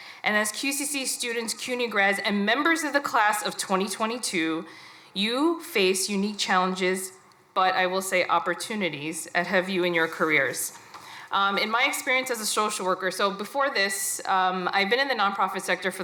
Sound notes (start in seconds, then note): none